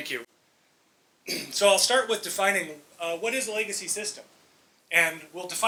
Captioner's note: clears throat